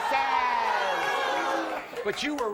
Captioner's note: audience jeering